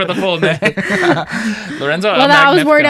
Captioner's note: laughing